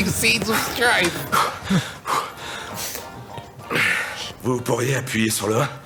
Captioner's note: breathing heavily; speaking in French